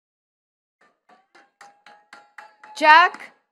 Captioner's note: attendees clapping